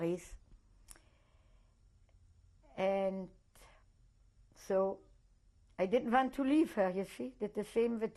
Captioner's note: pauses for 3 seconds